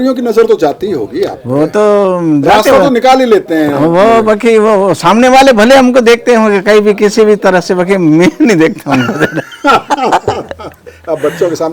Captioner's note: laughs